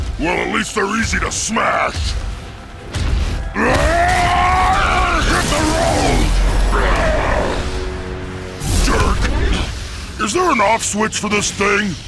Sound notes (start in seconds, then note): 3.6 roars; 6.7 grunts